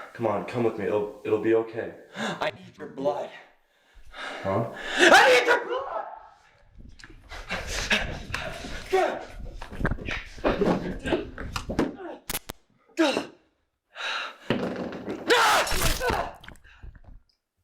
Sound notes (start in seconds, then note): 7.3 Greg panting heavily; 15.4 knife stabbing